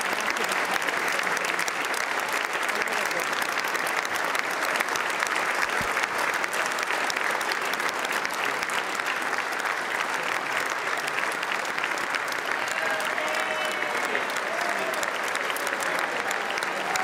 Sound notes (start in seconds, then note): 2.0 applause